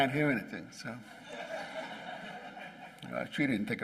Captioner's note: laughing